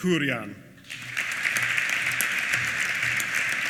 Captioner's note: applause